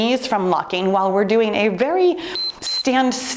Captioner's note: timer beeps